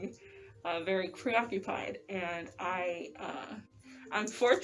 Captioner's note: none